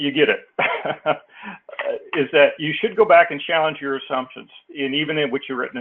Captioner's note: laugh